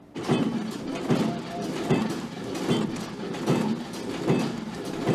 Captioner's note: machinery runs loudly